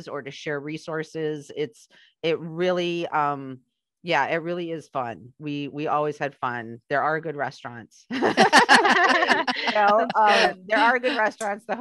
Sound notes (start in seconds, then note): 8.1 laughter